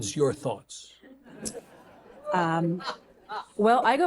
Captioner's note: audience chuckling; audience gasping